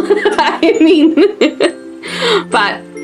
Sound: laughing

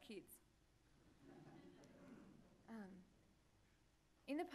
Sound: laughter

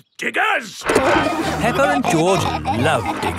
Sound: peppa and george laughing

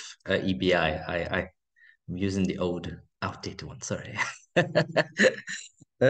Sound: laughing

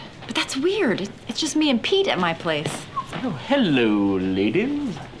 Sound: whistles

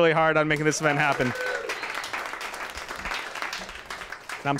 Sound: applause

